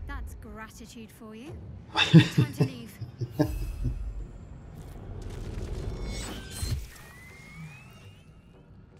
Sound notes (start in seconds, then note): 2.0 laughing